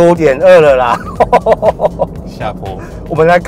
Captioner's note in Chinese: 哈哈哈